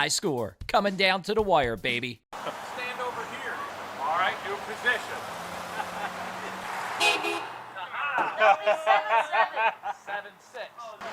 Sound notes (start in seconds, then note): 5.0 laughing; 6.2 cars honking